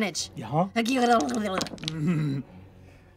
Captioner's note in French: balbutie